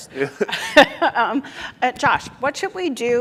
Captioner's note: laughs